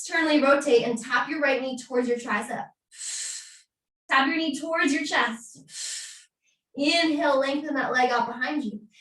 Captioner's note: exhaling